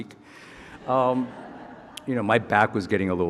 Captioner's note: audience laughing